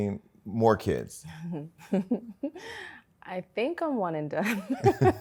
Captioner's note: chuckles